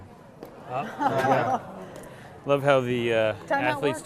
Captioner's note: laughing